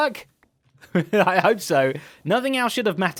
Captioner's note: chuckles